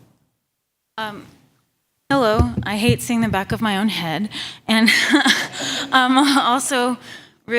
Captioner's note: laughter